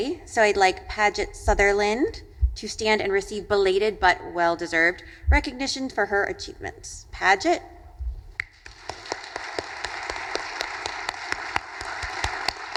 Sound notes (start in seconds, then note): 8.4 audience applauding